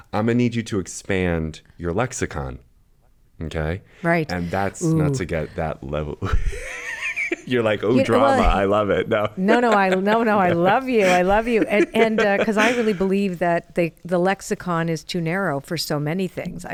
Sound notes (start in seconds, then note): 6.2 laughs